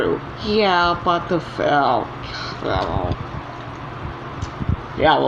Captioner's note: groans